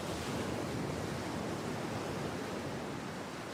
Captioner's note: waves splashing